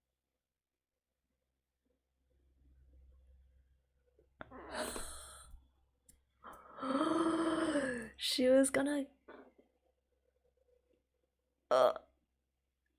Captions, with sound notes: [gasps] She was gonna - Oh -